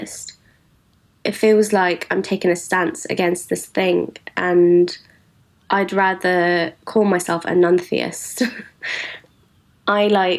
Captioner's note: laughs